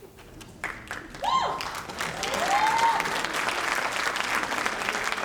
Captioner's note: audience applauding